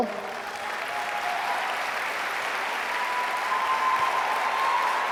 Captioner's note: audience applauding